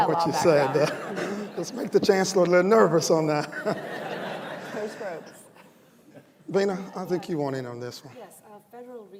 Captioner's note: laughter